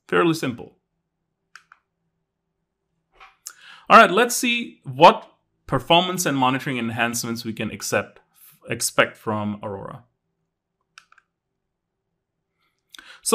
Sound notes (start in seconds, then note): 1.5 remote clicking; 3.3 accessory rattling; 10.9 remote clicking